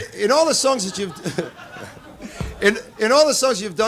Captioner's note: Laughter from Don & Audience